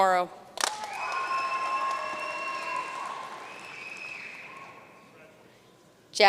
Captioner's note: audience cheering and applauding